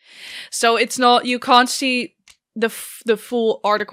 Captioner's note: none